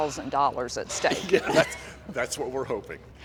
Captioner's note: laughs